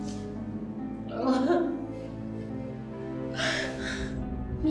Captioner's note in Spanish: llanto